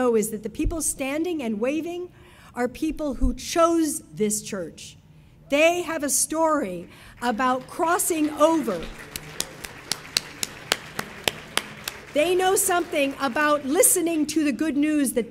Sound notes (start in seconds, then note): 8.8 audience applauding